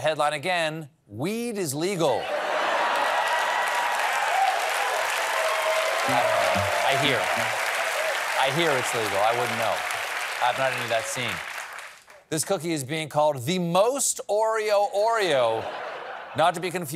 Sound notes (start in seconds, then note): 2.2 laughter; 3.2 applause